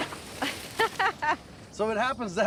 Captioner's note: laughing